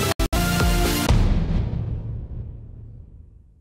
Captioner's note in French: Boum